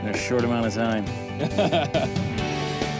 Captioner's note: laughs